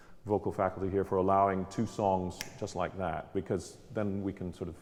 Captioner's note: snapping